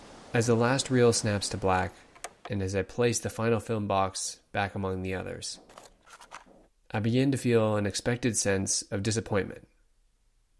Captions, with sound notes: As the last reel snaps to black, and as I place the final film box back among the others, [box clicking] I begin to feel an expected sense of disappointment